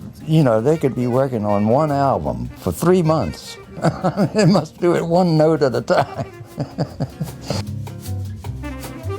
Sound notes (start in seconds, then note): 3.2 laughs